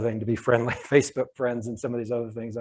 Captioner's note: chuckles